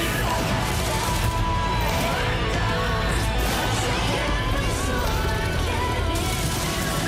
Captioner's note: cheers and applause